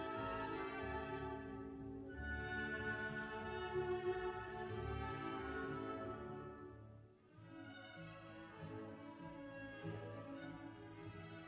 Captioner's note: speaking French